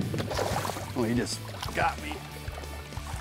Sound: water splashes

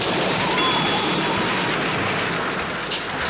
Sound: bell dings

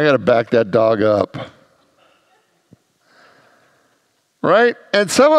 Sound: congregants laugh

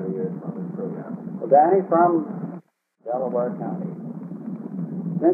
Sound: recording cuts out

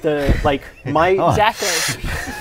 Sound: inhaling

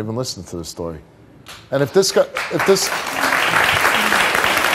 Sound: audience applause

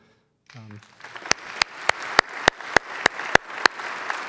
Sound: clapping

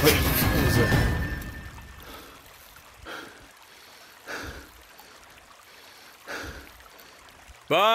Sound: breathing heavy

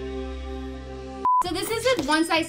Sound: beep

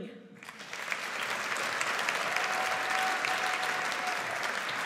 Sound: audience applauds

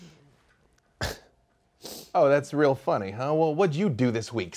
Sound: scoffs

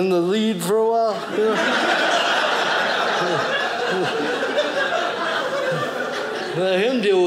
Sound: audience laughing

